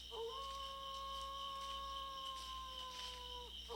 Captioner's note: coyote howling